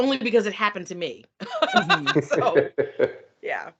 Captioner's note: laughing